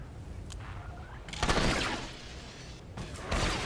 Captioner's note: gun firing